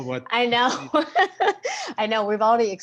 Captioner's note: laughs